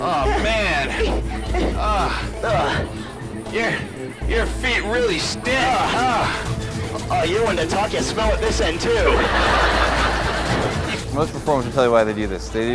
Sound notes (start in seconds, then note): 8.8 audience laughing